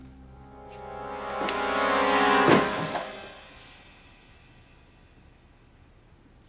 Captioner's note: suspenseful music; box drops